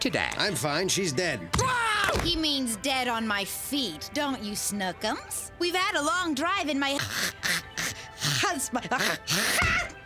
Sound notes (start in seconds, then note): 1.6 <i>screams</i>; 6.9 <i>choking</i>